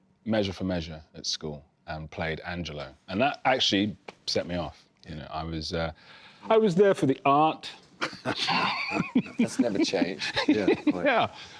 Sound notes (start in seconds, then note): 8.0 laughter